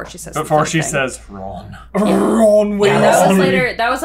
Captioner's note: rolling R